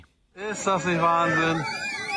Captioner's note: whale vocalizing